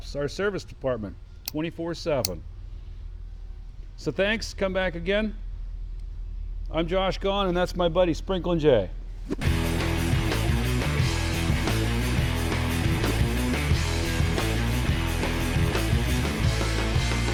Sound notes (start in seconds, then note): 9.2 transition whooshes; 9.4 rock outro music